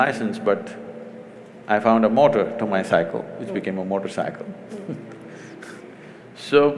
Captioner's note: laughs